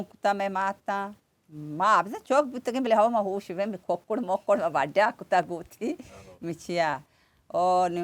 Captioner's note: chuckles